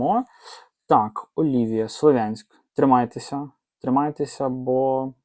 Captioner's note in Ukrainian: сопіння